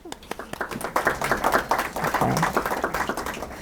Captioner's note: applause